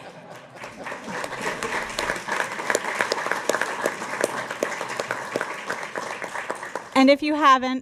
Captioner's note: applause